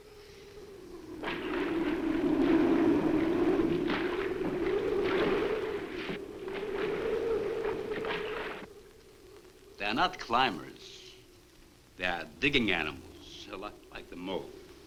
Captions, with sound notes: (water splashes) (wind howls) They are not climbers. They are digging animals, like the mole.